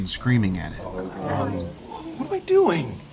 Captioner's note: groaning